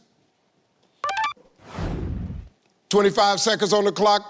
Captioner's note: computer beeps